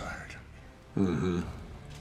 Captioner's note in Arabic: يقول بسخرية